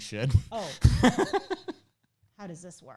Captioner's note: laughs